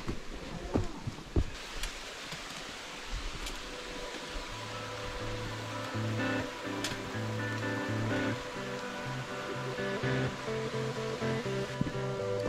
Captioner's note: waterfall